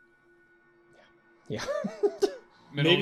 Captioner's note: laughing